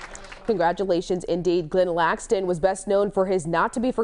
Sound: applause

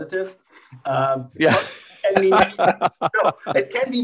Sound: panel attendees chuckling

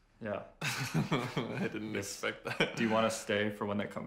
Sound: laughing

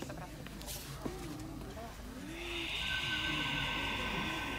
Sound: crowd mumbling; eerie music

